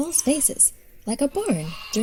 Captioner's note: sheep baa-ing